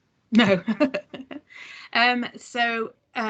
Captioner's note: laughs